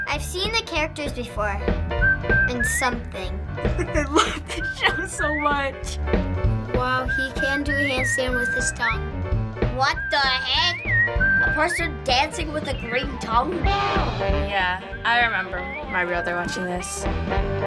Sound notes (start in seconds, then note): 3.6 laughing